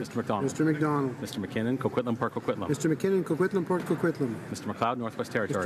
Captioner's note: speaking in french